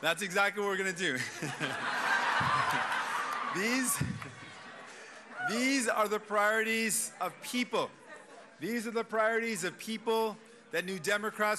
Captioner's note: cheers and applause